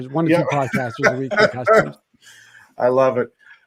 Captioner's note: all laughing